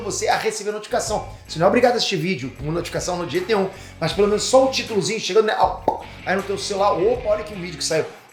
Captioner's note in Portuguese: pop